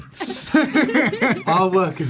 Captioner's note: laughs